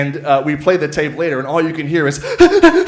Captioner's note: panting